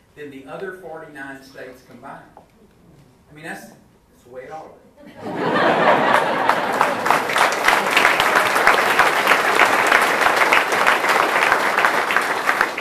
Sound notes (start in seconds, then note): 5.1 crowd laughs and applauds heartily